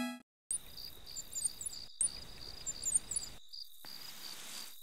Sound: birds chirping

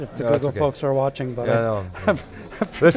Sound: chuckles

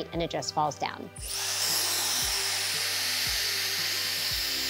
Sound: machine whirring

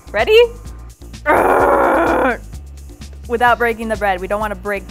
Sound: groans

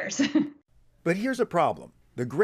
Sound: laughter

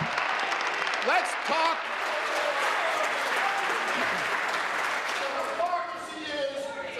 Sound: applause

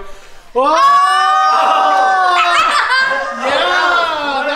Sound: all yelling

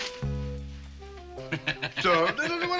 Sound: laughing

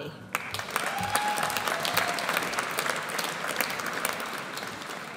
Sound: audience applauds

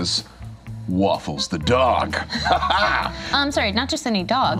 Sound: chuckles

